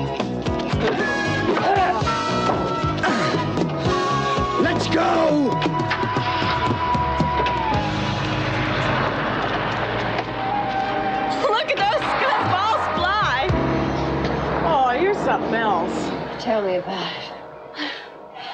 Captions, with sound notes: - Let's go! (car starts, drives off) - Look at those go bar fly! Aw, you're something else. - Tell me about it.